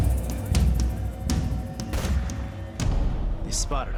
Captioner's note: gunshot